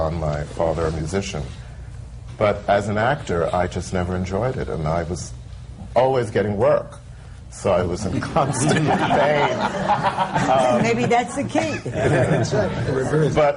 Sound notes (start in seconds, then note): 8.1 laughter